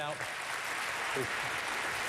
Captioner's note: applause